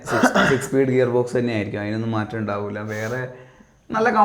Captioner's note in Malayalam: തൊണ്ട ശരിയാക്കുന്നു